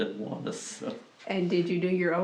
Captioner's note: laughs